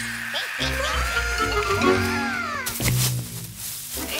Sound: screaming

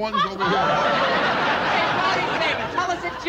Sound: laugher

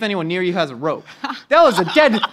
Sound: laughs

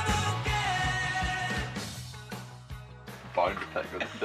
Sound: both chattering

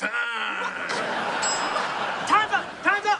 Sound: timer dings

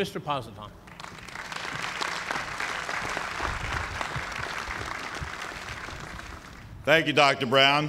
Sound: applause

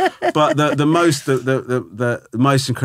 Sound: laughing

